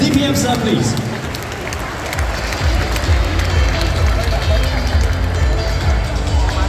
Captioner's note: applause